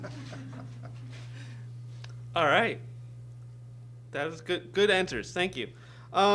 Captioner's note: laughter from all